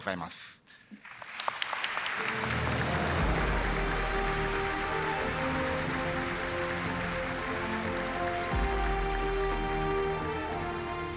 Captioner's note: applause